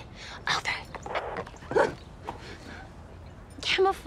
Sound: gasps

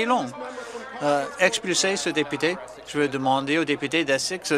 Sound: some Applause

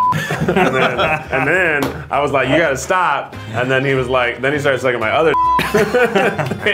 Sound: beep

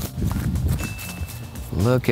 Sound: leaves crunching

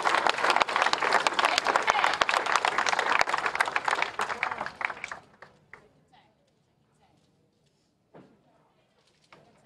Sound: applause

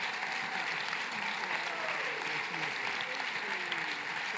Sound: applause

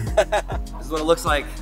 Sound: Tesla camper laughing

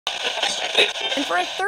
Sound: radio Tuning

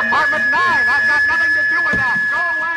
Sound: <i> very loud feedback</i>

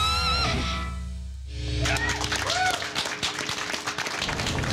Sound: applause

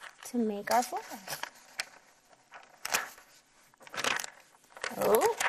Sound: paper rustling

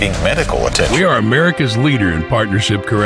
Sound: voiceover

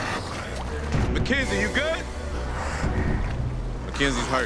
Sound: gasping

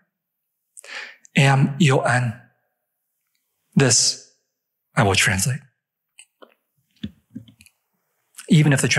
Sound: non-english speech

